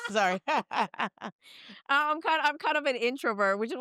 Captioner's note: all laughing